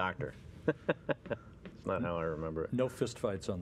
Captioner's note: chuckle